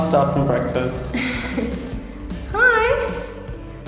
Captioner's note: laughing